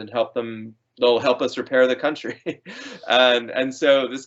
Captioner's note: laughing